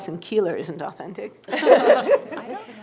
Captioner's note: laughter